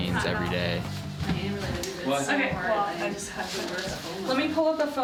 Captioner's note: chattering